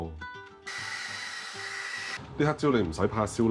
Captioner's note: vacuum cleaner sound